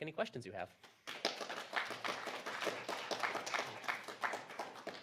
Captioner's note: applause